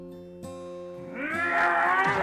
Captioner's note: Tina whimpers; pleaseant folk music swells; Skull-Faced Assailant grunts; strike thudding